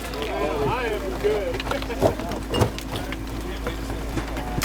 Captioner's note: laughing